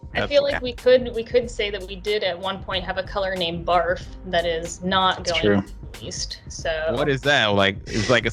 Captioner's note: laughter